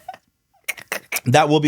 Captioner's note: laughing